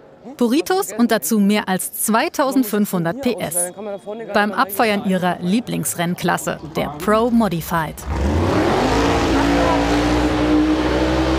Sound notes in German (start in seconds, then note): 6.6 Motorengeräusche